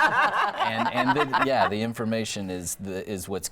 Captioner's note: panel laughing